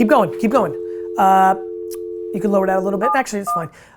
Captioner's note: dial tone